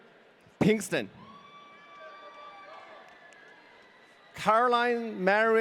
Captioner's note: audience cheering